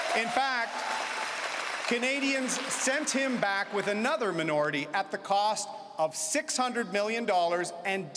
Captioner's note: cheering and Applause